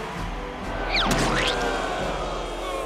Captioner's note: crowd booing